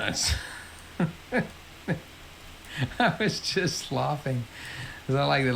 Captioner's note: laughs